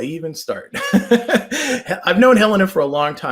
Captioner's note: laughs